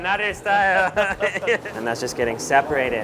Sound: laughs

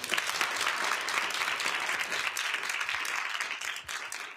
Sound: applause

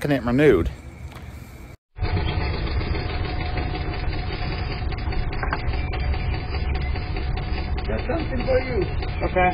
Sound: golf cart engine running

